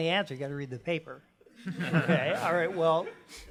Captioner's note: laughter